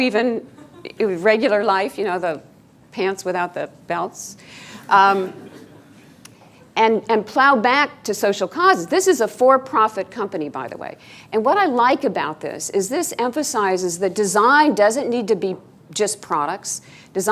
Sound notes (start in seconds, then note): 5.2 laughing